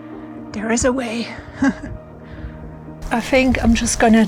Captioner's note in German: lacht